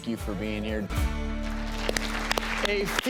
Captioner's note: audience applause